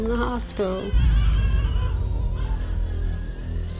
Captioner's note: baby crying